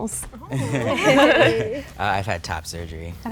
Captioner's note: chucking softly